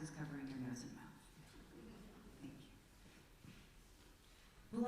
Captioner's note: quiet laughter from congregation